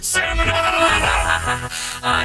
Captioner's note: laughs manically